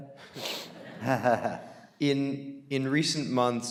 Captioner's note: audience laughing